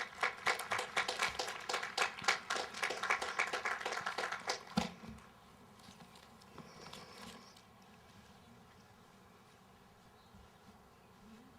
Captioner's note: applause